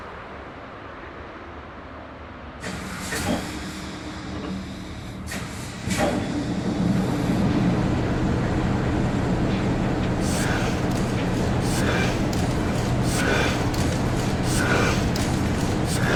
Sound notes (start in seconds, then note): 3.0 machinery clattering; 10.2 machinery pumping